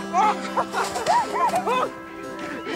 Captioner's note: <i> giggling</i>; <i> groaning</i>